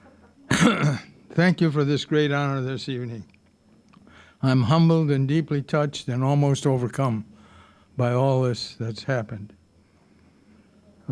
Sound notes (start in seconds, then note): 0.4 clearing throat